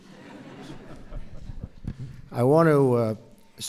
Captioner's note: laughter